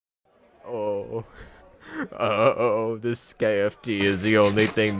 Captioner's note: sobbing